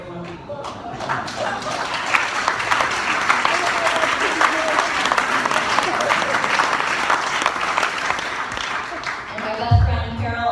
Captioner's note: applause